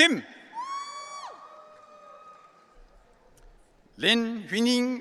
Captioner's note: audience cheering